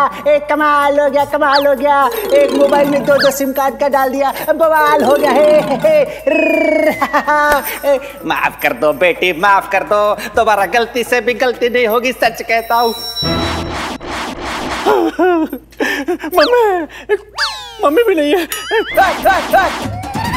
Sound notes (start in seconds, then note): 6.3 Laughs; 14.8 Crying